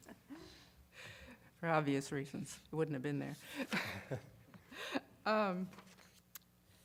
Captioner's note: laughter